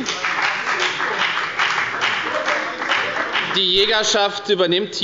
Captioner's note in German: Beifall bei der FDP – Zuruf von der LINKEN: Lieber Gott!